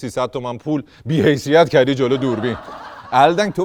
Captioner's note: laughter